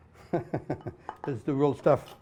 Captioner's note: laughs